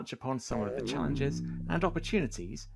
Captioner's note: deflated robot noise